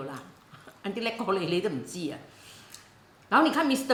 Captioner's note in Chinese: 廣東話